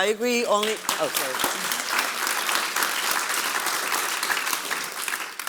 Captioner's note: audience applause